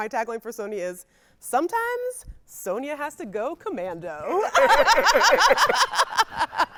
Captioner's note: laughing